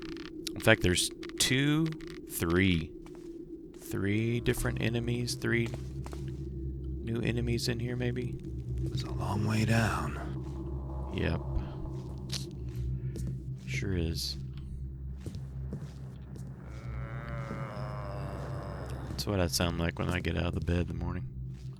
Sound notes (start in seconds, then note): 16.4 zombie moans